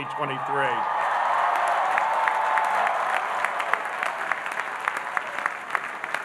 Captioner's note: audience cheering and applauding